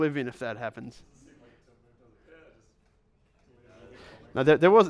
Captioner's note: voiceover